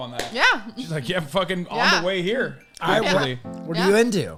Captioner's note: laughing